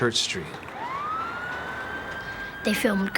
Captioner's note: sirens blaring